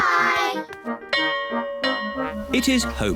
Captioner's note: bell rings